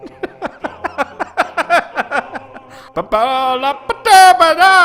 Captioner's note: laughs